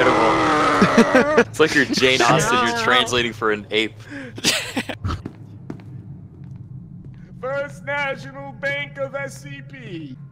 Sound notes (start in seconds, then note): 4.3 laughter